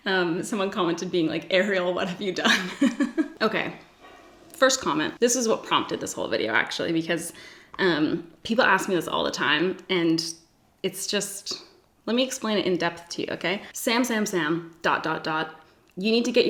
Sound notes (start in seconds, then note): 2.5 laughs